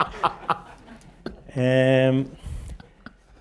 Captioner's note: laughter